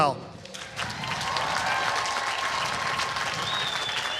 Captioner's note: applause